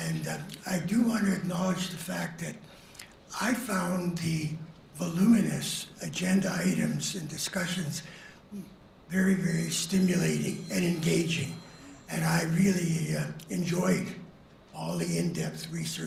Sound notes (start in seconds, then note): 10.1 phone rings